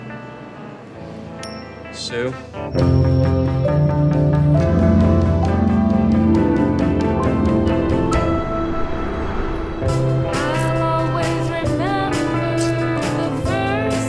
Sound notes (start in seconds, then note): 1.9 coin clinks; 3.4 dramatic rock music